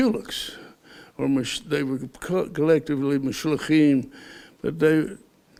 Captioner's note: Hebrew